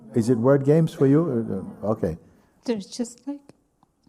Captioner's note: voices in group